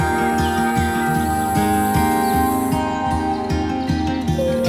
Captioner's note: birds chirping